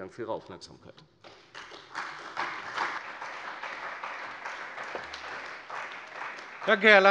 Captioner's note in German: Beifall bei der CDU und dem BÜNDNIS 90/DIE GRÜNEN